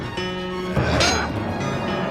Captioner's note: yelling; metal clanging